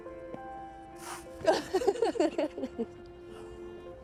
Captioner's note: laughing